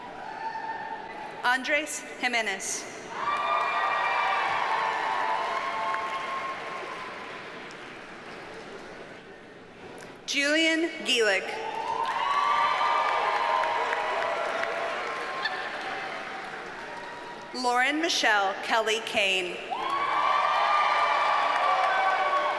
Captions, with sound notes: Andres Jimenez. (audience cheers and applauds) Julian Guelig. (audience cheers and applauds) Lauren Michele Kelly Kane. (audience cheers and applauds)